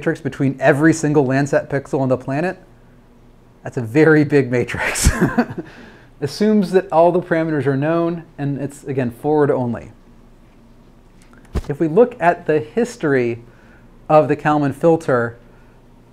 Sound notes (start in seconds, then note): 4.9 laughs loudly